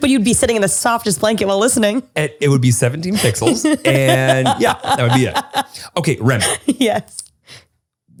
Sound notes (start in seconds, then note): 3.2 laughing